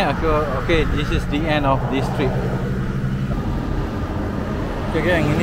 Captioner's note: motor Sound